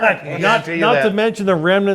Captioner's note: laughing